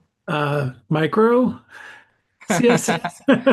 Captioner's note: laughing; laughing